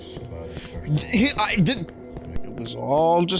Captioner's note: stammers